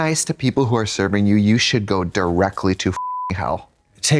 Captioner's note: beep